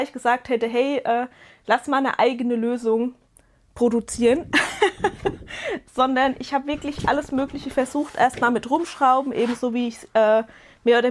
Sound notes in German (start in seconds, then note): 4.5 gelächter